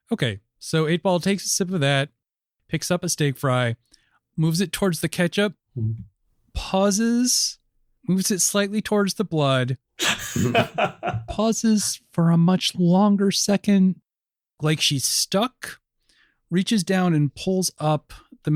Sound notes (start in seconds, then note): 10.0 laughter